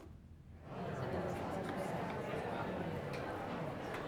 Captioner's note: background chatter